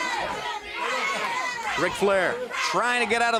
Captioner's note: crowd cheering